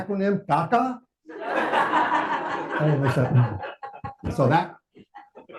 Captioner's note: audience applauding